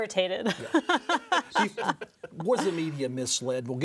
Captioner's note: laughs